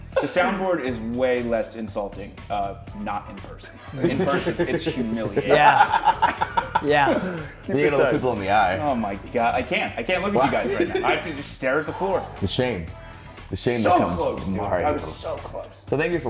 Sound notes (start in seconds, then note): 3.7 laugh